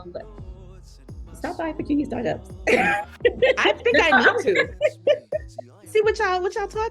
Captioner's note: laughter